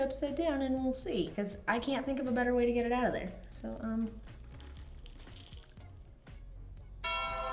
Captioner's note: bell Sound